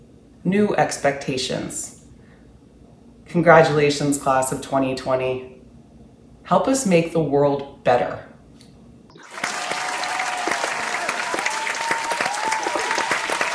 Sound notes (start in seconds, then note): 9.2 applause